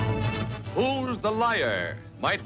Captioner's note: voiceover